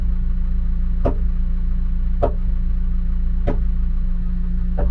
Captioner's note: mallet pounding